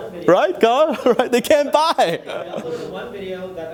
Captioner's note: laughing